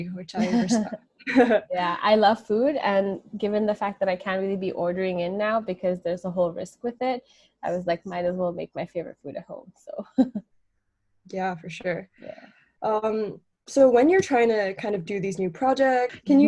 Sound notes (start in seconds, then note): 0.4 both laugh; 10.1 chuckles